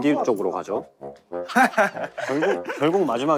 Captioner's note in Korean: 어색한 웃음